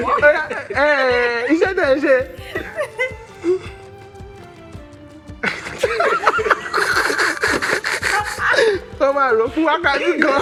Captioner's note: laughs